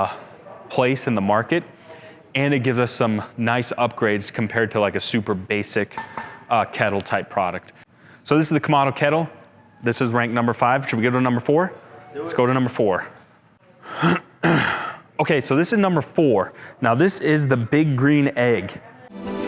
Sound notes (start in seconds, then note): 13.9 clears throat